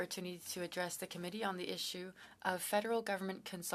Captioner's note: speaking French